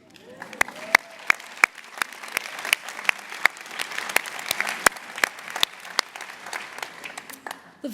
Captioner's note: applause